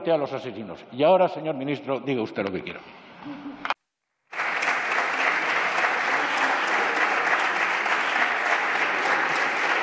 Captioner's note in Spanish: Aplausos